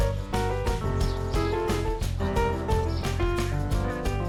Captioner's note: chattering